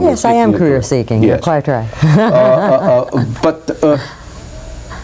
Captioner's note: laughs